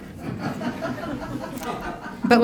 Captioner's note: laughter